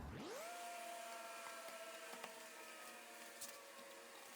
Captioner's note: tool buzzing